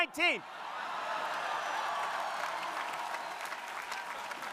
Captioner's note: crowd cheering